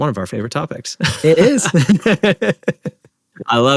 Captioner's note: laughter